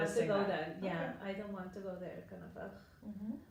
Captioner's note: groans